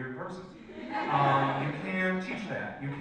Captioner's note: audience laughs